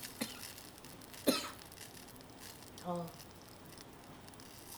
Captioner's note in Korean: 쿨럭